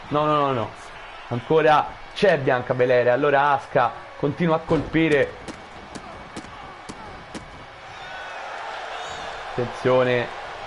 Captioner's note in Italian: Applauso